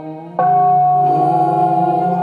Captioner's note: singing chant; bell ringing